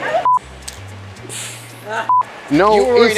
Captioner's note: beep